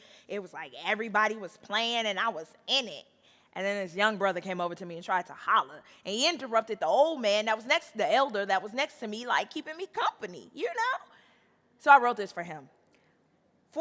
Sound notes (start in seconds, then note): none